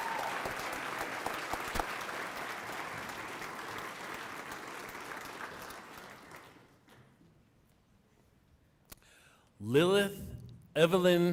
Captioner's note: applause